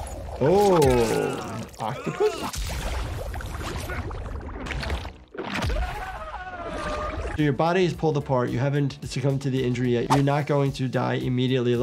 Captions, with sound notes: - Oh, an octopus? (fighter screams) So your body is pulled apart. You haven't succumbed to the injury yet. You're not going to die immediately.